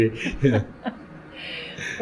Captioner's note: laughter